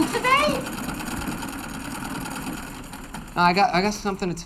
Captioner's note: sewing machine clattering